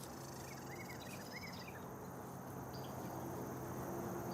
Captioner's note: birds chirping